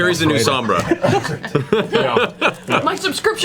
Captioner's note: all laugh